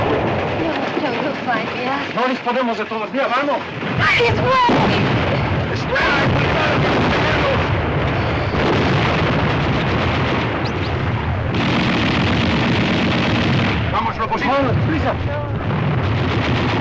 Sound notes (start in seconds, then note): 4.0 shouting; 13.8 man Speaking Spanish